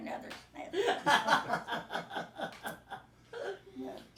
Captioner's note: group laughing